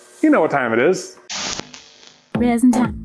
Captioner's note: tape scratches